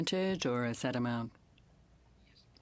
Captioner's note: speaking in French